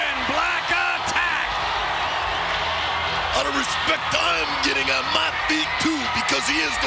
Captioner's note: applause